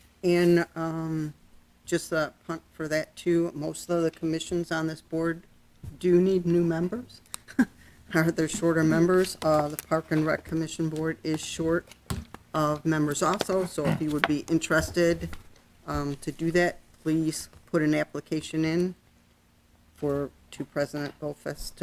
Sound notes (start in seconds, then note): 7.4 chuckles